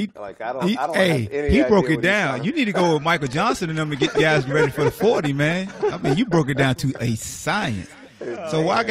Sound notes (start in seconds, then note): 5.7 laughter